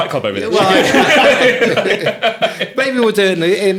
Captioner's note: all laughing